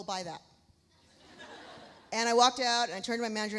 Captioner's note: audience laughs